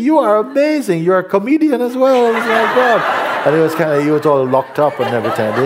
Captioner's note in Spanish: risas